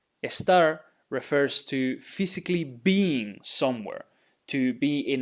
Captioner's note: speaking in Spanish